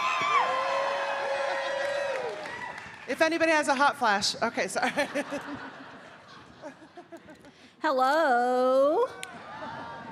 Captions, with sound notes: [audience cheering] - If anybody has a hot flash, okay sorry. [laughing] - Hello. - Hi.